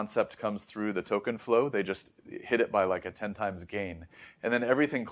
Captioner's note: inhales